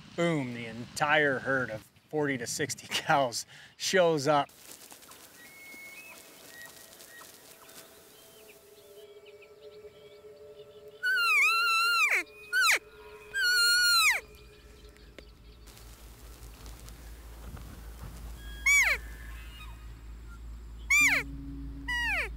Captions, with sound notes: Boom, the entire herd of 40 to 60 cows shows up. (bird chirps) (hunter calling)